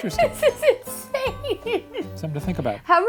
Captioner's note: laughing